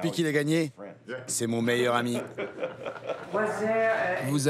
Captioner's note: laughs